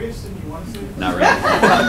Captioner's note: laughter